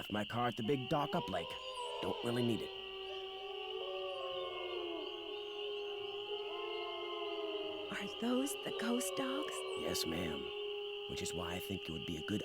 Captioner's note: ghostly howls